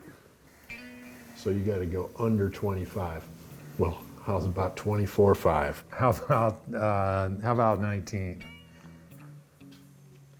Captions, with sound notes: - So, you gotta go under 25. Well, how's about 24,500? - How about (laughing), how about 19?